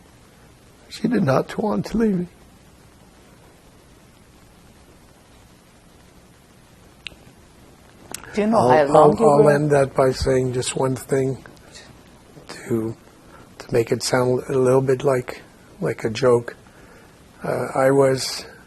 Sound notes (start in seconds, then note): 2.2 pauses 6 seconds